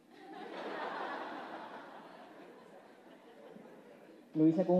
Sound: laughs

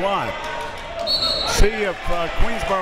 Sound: whistle tweeting

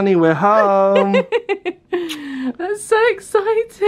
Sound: laughs

